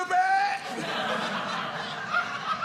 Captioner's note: audience laughing